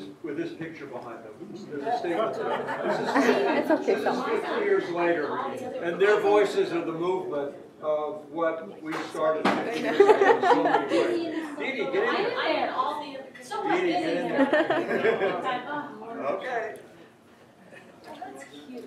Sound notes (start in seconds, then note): 2.1 laughter; 14.1 laughs